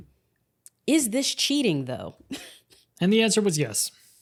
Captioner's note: chuckles